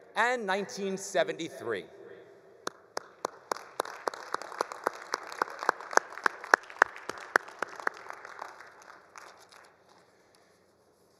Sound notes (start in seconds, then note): 2.9 all applauding